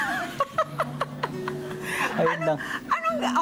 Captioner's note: laughter